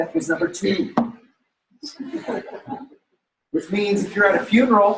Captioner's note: laughter